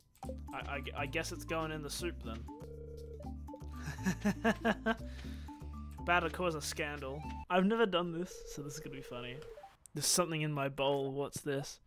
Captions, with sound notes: I guess it's going in the soup then. *evil laugh* Boutta cause a scandal. I've never done this, so this will be funny. "There's something in my bowl."